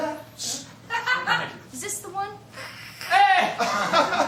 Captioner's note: makes cutting noise